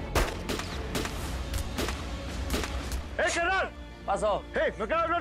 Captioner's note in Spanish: Disparos